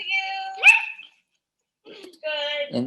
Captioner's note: puppy barking